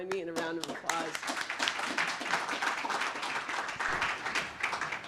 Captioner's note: audience claps